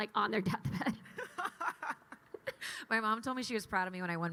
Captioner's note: laughs